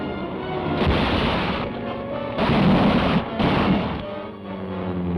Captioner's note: vehicle crashing; engine buzzes